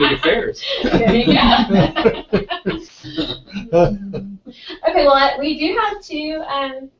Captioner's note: laugh